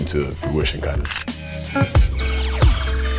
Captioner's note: camera shutters; upbeat music